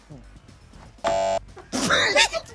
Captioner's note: buzzer buzzes; everyone laughs